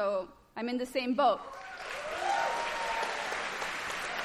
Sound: applause

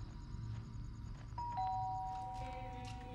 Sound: doorbell ringing

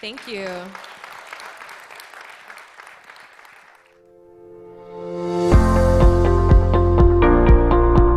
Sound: applause

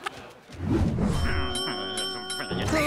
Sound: dinging, groaning

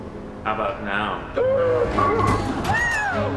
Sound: gasping

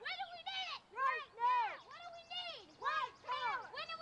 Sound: continue chanting

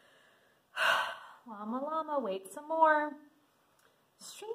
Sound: sighs

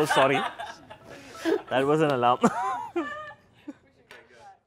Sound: laughter; laughs

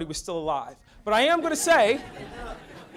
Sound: audience laughs

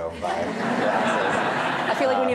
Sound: audience laughing

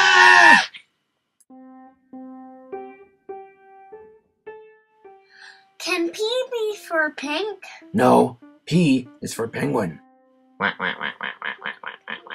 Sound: quacking Noises

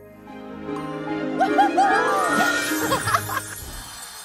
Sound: chuckling; whooping

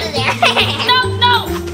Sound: Gabby Gabby laughs

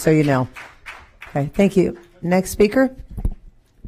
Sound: applause

